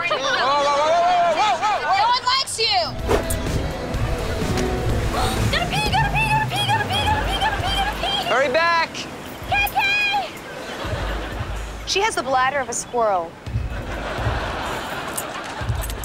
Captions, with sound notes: Whoa! Whoa! Whoa! Whoa! No one likes you! [gasping] Gotta pee, gotta pee, gotta pee, gotta pee, gotta pee, gotta pee, gotta pee! Hurry back. Kay-kay! She has the bladder of a squirrel.